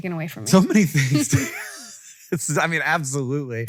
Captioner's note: laughs